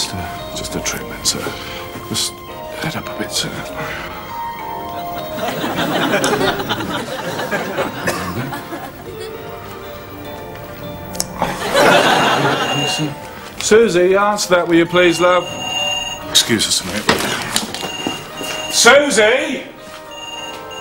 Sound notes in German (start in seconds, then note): 11.4 Das Telefon klingelt